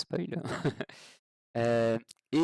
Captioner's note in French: rires